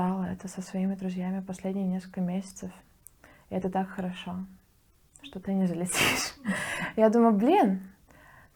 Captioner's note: laughs